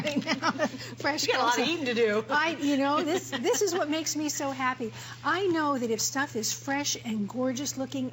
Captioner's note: laughter